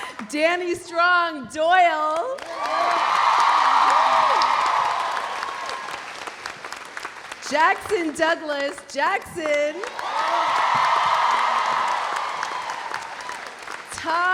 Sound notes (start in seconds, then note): 0.0 audience laughs; 2.4 audience cheering; 2.5 audience applauding; 9.7 audience applauding; 9.8 audience cheering